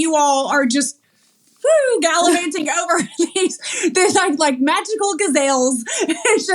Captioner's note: laugh